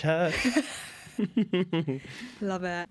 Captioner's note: laughter